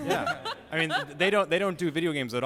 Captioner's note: laughter